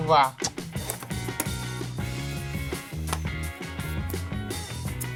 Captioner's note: lid snaps